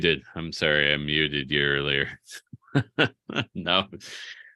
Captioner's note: laughs